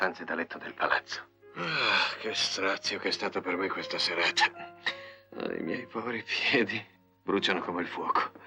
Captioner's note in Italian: sospiri